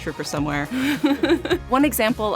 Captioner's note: laughing